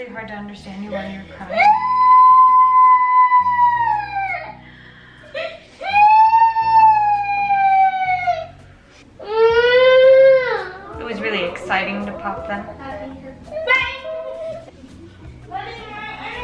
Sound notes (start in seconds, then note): 1.3 crying; 1.3 deep breath; 1.5 crying